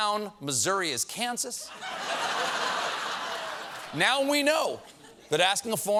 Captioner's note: laughter